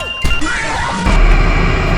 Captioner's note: woahj scary jumscare